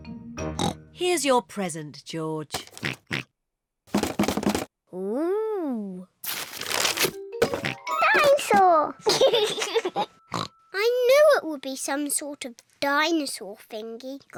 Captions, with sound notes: (OINKS) Here's your present, George. (OINKS) -(RATTLES) -Ooh! (OINKS) Dinosaur! (LAUGHS) (OINKS) I knew it would be some sort of dinosaur thingy.